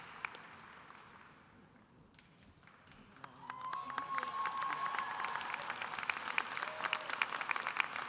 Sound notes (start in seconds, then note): 3.2 audience applauding; 3.4 audience cheering